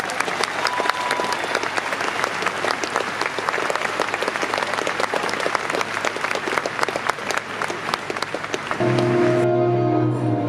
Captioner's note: applause